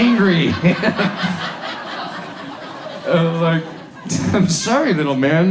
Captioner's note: audience laughs